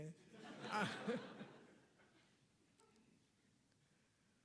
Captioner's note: audience laughing